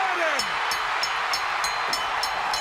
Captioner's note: bell ringing; crowd cheering